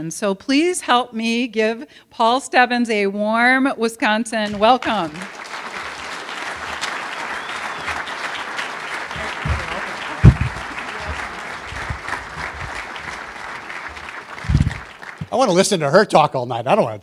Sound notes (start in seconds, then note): 9.8 applause